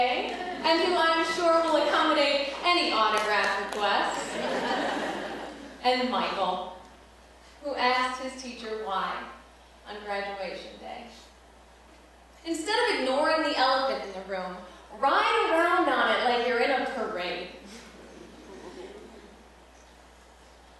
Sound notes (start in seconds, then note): 4.2 laughter